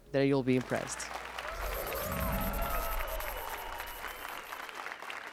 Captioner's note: applause and cheers